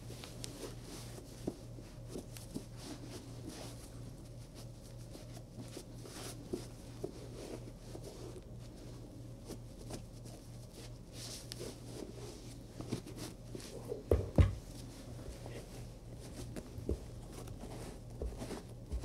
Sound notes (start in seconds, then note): 0.5 cloth wiping